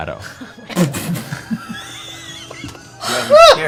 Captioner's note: terrified laughter